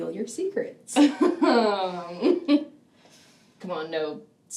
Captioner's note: chuckles